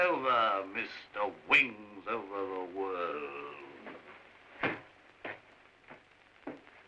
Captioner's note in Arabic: لهجة ساخرة